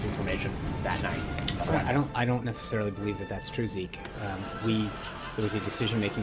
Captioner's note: raucous laugh track